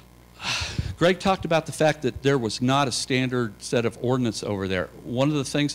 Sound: sigh

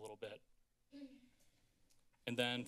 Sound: woman clears throat

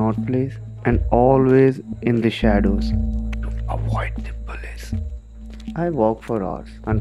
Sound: whispers

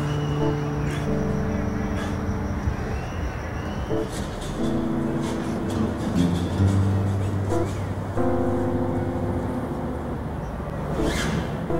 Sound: prison inmate chatter

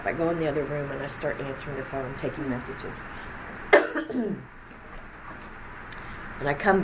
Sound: coughs

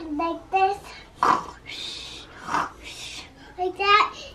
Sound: snoring

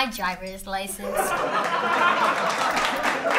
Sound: audience laughter

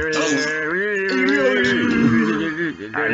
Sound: falling sounds

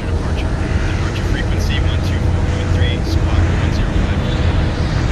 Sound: atc talking

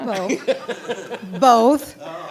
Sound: audience laughs

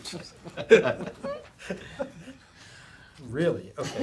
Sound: laughter

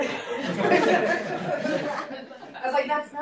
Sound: laughter

